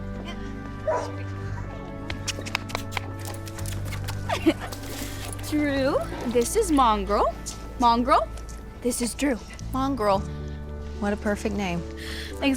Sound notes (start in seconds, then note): 0.8 dog barks